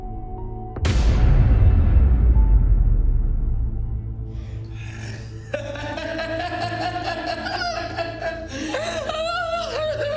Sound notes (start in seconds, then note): 5.3 Ben laughing; 7.1 Mia crying